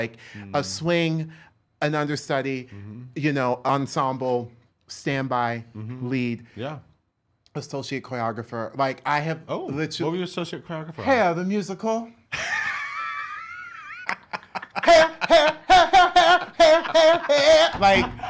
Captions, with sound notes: Like a swing, an understudy, you know, ensemble, standby, lead, associate choreographer, like I have literally-- Oh, what were you associate choreographer on? Hair the Musical. (laughs) Hair, hair, hair hair hair, hair hair hair,